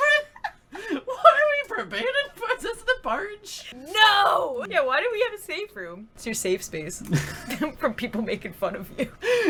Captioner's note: lols